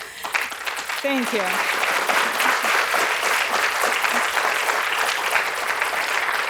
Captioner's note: audience applauding